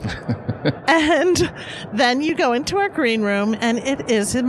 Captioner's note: laughs